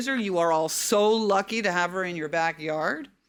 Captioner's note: none